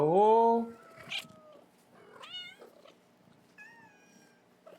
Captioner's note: cats meowing